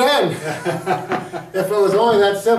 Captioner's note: laughing